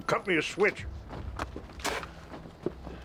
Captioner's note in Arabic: يبصق